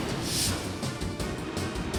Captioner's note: jet whooshes